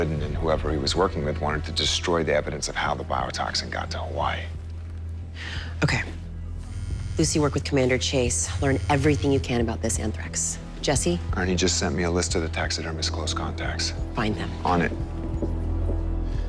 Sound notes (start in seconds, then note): 6.5 phone vibrates